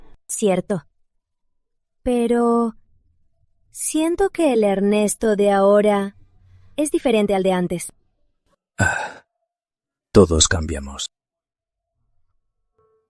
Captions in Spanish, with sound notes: Fair enough. But I just feel like Evan right now is quite different from before. *Sigh* People change.